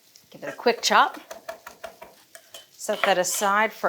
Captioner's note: knife chopping